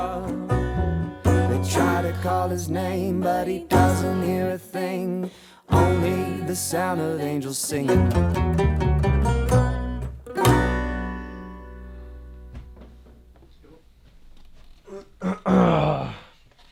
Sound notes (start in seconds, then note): 14.9 clears throat